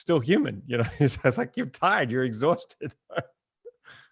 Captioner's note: laughs